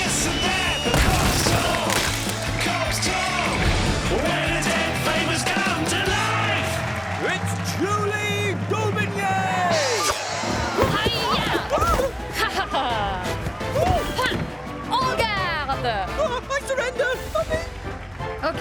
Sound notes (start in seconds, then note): 11.0 grunts